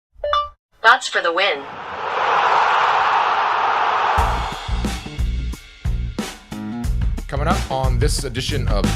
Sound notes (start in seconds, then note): 1.5 crowd cheer; 4.2 upbeat music